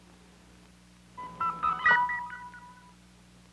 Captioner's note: Electronic audio effect